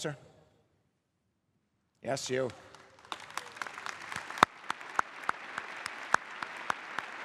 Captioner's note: applause